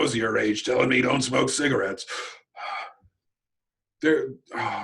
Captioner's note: exhale